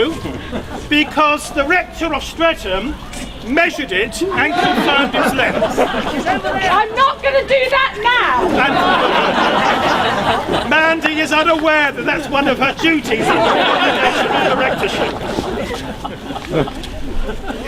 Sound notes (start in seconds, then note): 8.4 audience laughs; 12.4 laughter